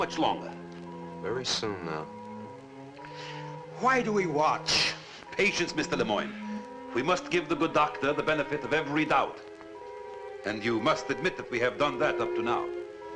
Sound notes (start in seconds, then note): 5.2 satellite beeping